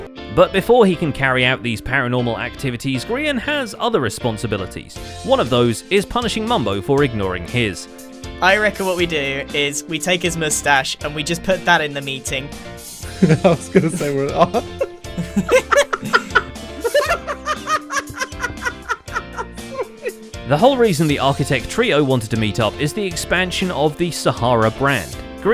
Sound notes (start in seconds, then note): 14.8 chuckling; 15.3 laughing; 16.7 even more laughing